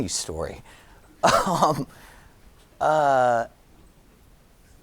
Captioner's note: giggling